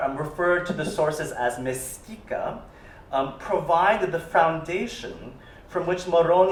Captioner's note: italian